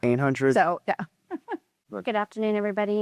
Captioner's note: chuckles